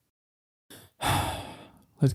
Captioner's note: sigh